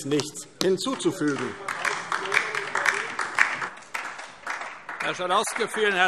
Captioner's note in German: Beifall DIE LINKE